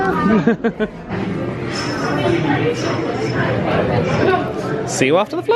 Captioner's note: people chattering; laughs